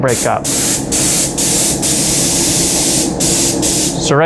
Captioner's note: spray gun hissing